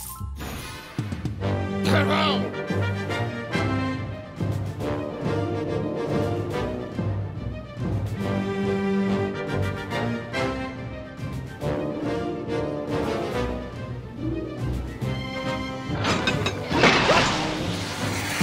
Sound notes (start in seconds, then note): 1.7 shouts command; 15.9 gears clank